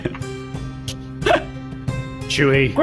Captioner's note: laughs